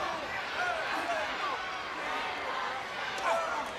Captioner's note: crowd cheers